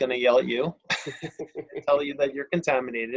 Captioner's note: laughs